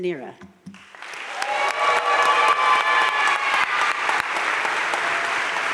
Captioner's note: audience cheering and applauding